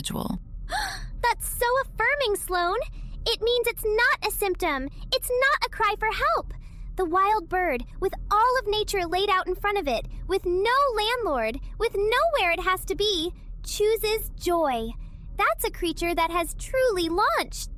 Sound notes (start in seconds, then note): 0.7 gasp